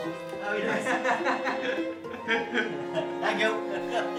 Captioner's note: subtle orchestral music; both laughing